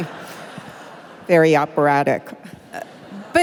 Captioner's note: laughter